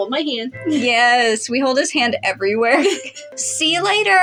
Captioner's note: chuckle